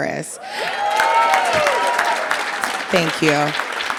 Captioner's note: audience applauding